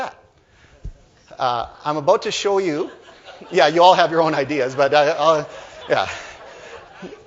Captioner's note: laughter